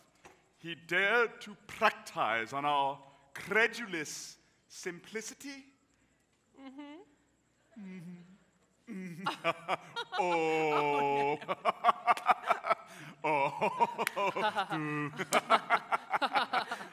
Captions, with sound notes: he dared to practice on our credulous simplicity? - Mm hmm. - Mm hmm. Mm hm. (laughing) - Ohhh! (laughs) (laughter)